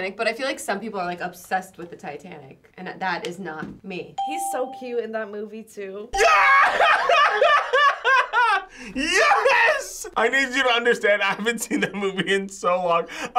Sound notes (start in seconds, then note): 6.2 laughs